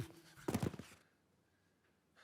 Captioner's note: thuds